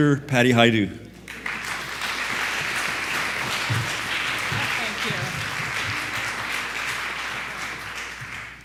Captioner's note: audience applauding